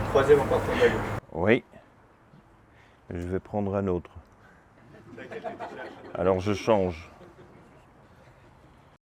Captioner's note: laughing